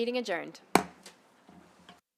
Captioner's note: gavel hitting dais